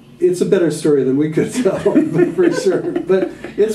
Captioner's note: laughter